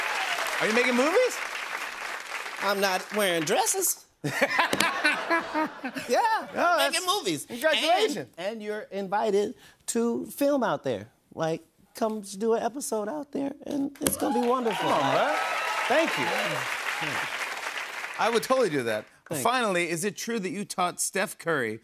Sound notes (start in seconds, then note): 4.2 laughter; 14.1 cheers and applause